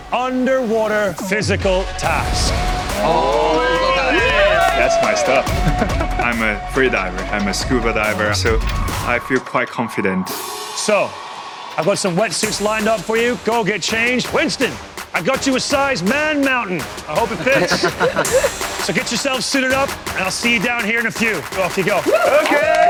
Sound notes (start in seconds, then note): 2.1 all cheering; 4.0 laughs; 17.2 all laughing